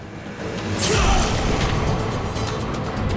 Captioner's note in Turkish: Tekme sesi